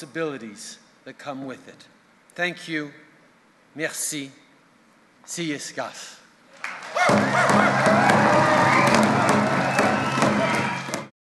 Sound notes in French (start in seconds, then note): 6.6 Acclamations enthousiastes et battements de tambour